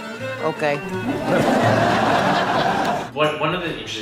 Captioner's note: audience laughs